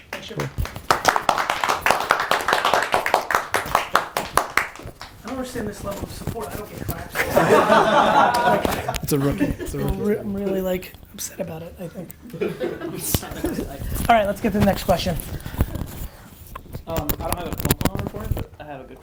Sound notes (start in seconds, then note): 3.8 group applauding; 7.0 group laughs